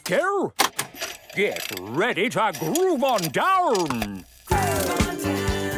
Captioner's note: clicks, whirring; disco music plays